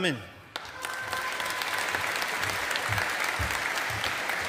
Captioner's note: audience applauding